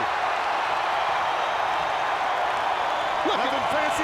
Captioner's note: crowd cheering